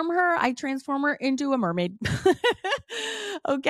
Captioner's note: laughs